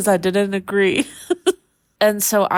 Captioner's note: laughing